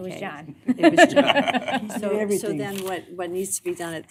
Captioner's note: collective chatter